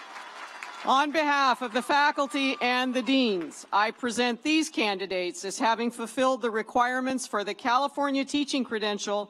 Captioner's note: cheers and applause